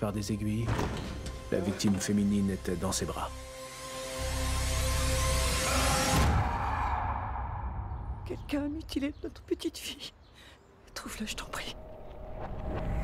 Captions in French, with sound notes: Les yeux de la victime masculine Étaient retenus ouverts par des aiguilles. La victime fÉminine Était dans ses bras. (musique dramatique) (hurlement) - Quelqu'un a mutilÉ notre petite fille.